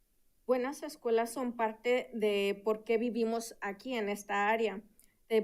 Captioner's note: speaking in Spanish